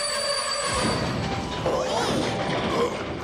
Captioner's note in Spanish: frenazo; gritan